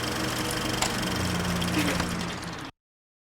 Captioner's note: projector dies